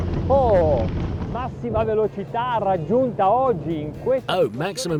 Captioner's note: speaking in foreign language